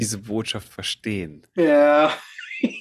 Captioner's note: laughs